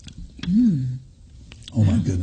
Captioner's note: hums